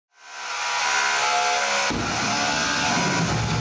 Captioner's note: mechanical whirring